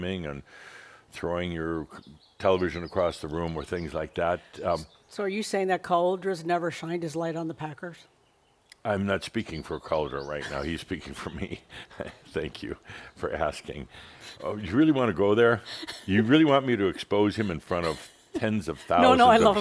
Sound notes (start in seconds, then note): 10.3 they chuckle; 17.4 chuckles